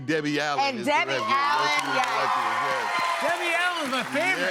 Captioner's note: cheers and applause